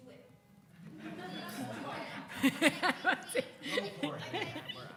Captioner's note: crowd laughing